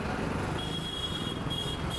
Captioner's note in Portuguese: som de carros e buzinas